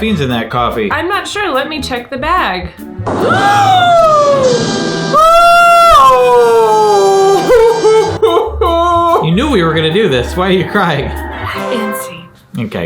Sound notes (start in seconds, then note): 3.2 gasping; 5.3 wailing